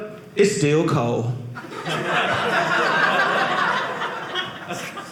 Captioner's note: audience laughing